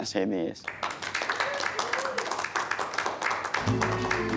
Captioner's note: applause